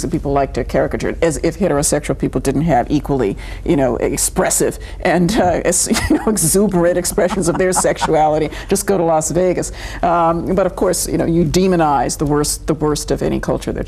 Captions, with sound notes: that people like to caricature, as if heterosexual people didn't have equally, you know, expressive, and exuberant expressions (laughing) of their sexuality. Just go to Las Vegas. But of course, you demonize the worst of any culture